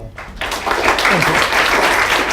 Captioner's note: applause